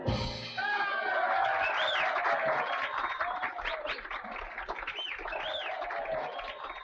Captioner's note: audience cheering; audience applauding